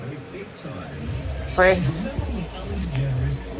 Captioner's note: continues playing; normal voice; continues playing